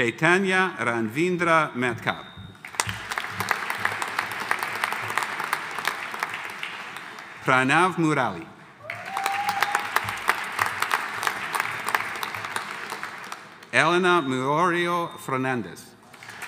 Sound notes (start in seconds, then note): 2.6 audience applauding; 8.8 audience cheering